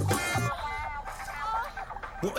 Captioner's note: woman moaning on TV